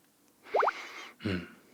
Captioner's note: sniff